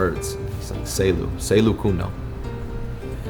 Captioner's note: speaks in foreign language